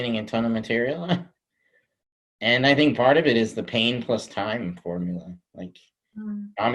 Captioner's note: chuckles